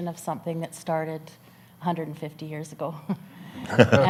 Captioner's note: chuckles